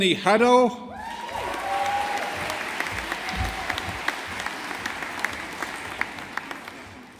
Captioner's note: audience applauding